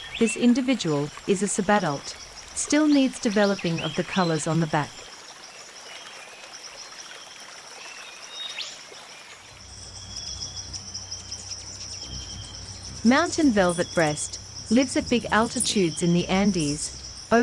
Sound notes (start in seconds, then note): 5.4 birds singing and chirping; 5.4 river flowing; 10.2 bird's wing flapping